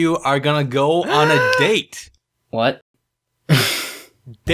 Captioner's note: gasp